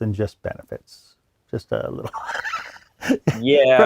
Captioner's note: laughs